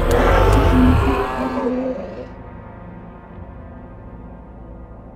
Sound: death growls

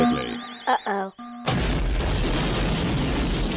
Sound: explosion

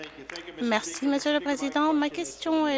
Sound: applause

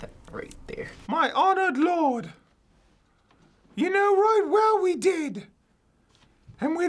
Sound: in high pitch

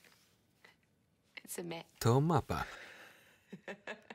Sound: laughs loudly

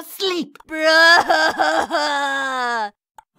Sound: cries

